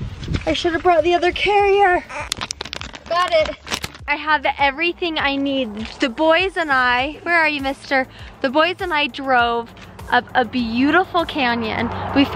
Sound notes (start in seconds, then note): 2.3 clicking